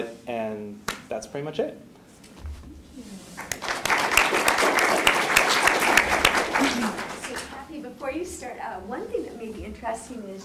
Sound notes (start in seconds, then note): 3.4 applause